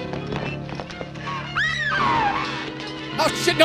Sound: screams

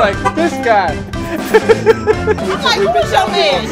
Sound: laughing

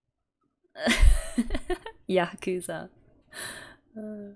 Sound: laughs

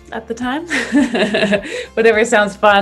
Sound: both laugh

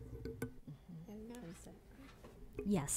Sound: chatter

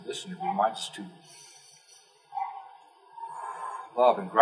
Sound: exhale; inhale

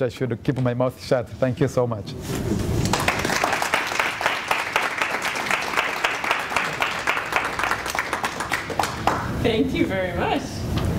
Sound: applause

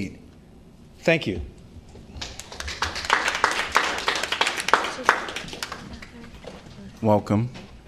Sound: applause

